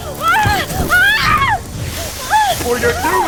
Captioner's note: Martha screaming